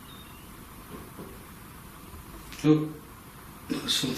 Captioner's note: light tapping